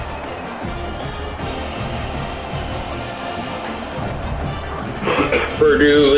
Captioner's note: crowd Noises